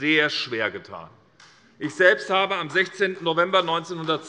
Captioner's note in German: Beifall